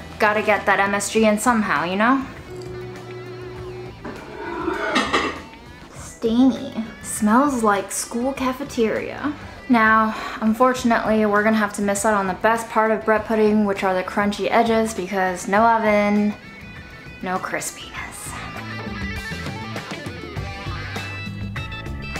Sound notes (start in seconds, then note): 1.6 upbeat instrumental music; 4.4 bowl scraping; 18.3 upbeat instrumental music